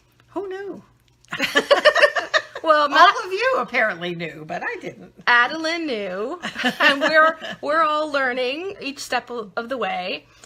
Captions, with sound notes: - Who knew? (laughing) All of you apparently knew but I didn't. - Adeline knew and we're all learning, each step of the way.